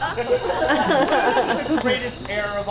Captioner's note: audience laughs